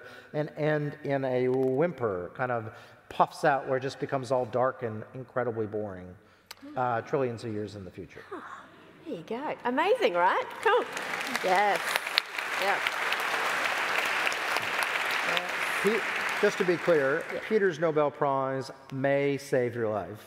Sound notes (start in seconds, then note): 12.6 applause